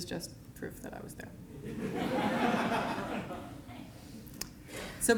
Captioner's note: laughter